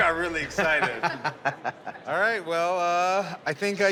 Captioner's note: laughter